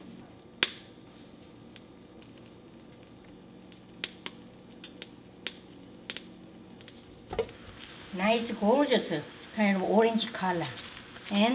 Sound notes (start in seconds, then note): 1.7 pop and crackling